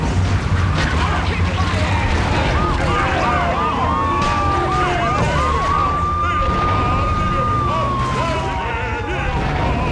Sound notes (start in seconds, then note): 0.0 tires screeching; 2.1 yelling; 3.6 explosion